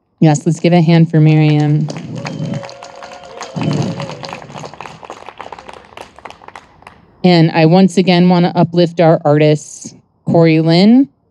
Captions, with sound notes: Yes, let's give a hand for Mariame. (audience applauding and cheering) And I once again wanna uplift our artists, Korey Lynn,